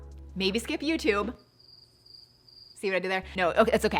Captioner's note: crickets chirping